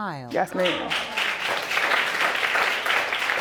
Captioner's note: audience applauding